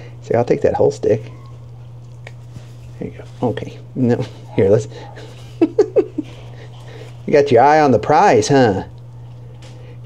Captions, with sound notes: Say, "I'll take that whole stick." Here you go, okay. No, here let's, (laughs) you got your eye on the prize, huh?